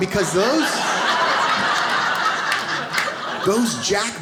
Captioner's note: audience laughs